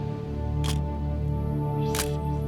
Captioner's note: camera shutter click